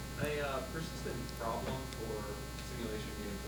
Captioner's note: male Voice